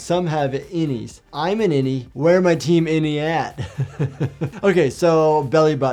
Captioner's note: laughs